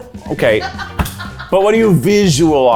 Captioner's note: laughs